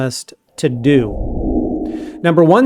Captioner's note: air swooshing